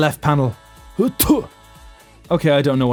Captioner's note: coughs blood in Russian